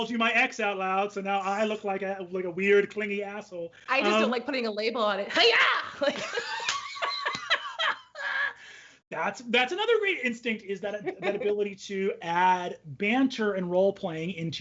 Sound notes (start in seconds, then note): 5.7 both laugh